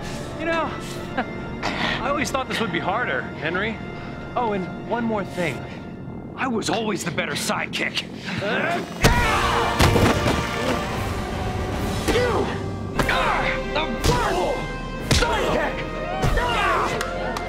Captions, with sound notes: You know... I always thought this would be harder, Henry. Oh, and one more thing... I was always the better sidekick! [screaming] You... are... the worst... sidekick! [groaning]